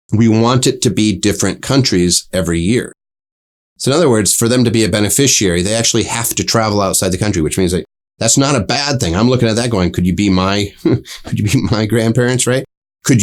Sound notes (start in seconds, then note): 10.6 laughs